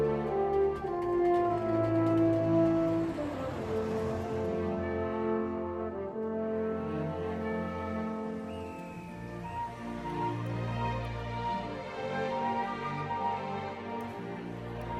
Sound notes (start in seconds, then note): 0.1 engines roaring; 8.2 whistle fweeting